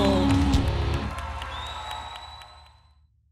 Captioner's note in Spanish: Los vítores continúan hasta el final